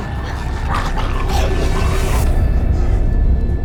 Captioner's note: growling